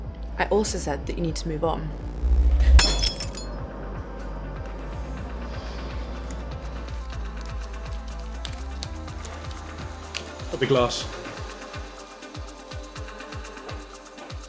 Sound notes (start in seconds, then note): 2.6 glass crashing; 11.8 upbeat music